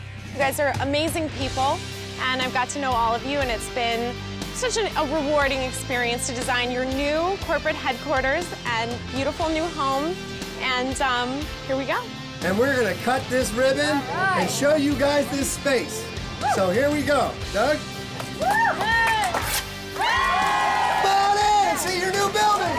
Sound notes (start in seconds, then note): 18.3 crowd cheering; 19.9 more cheering